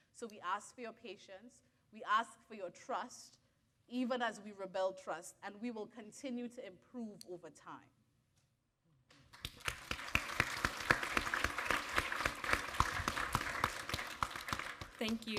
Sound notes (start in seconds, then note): 9.3 audience applaud